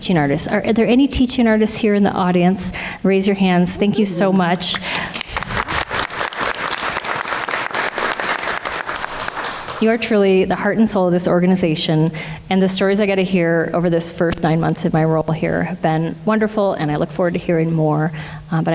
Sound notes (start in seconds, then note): 4.6 everyone applauds